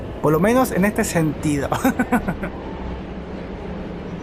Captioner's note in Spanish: risas